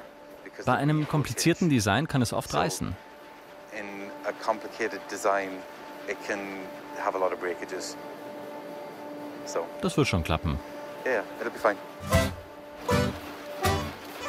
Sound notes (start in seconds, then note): 4.4 machine whirring; 11.8 playful music